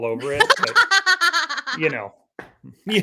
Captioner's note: laughing